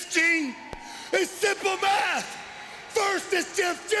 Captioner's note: crowd cheering